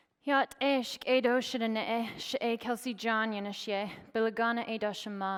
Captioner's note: speaking foreign language